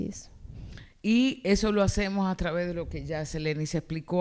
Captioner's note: speaking spanish